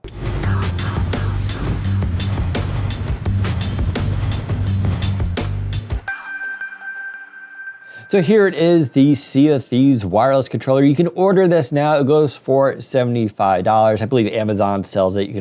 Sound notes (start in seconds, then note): 6.0 high-pitched echoing chime